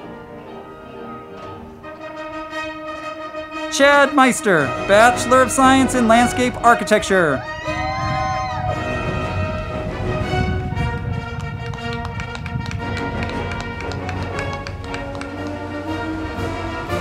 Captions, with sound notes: Chad Meister, Bachelor of Science in Landscape Architecture. (band music) (crowd clapping and cheering)